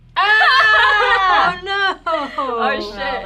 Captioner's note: group exclaiming